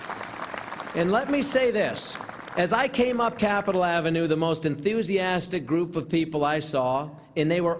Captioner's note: applause